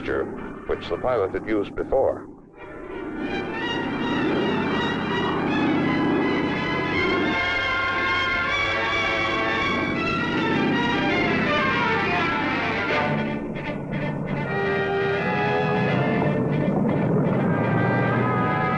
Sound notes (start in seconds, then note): 2.6 plane whirring; 4.7 dramatic orchestral music